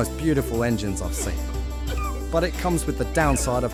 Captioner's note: man sobbing